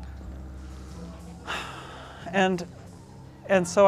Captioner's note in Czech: vzdychá